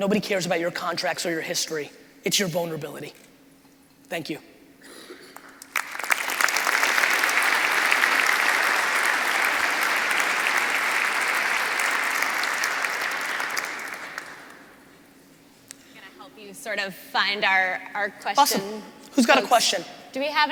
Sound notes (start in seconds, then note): 5.3 crowd applauding